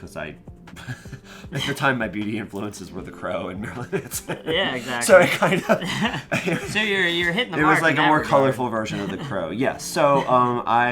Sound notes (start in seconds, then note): 4.2 laughs; 6.7 laughs